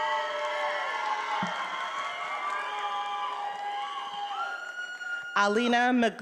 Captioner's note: attendees applauding and cheering